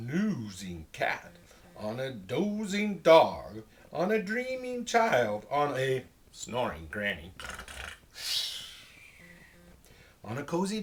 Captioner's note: makes snoring noises